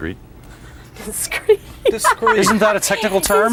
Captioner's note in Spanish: laughs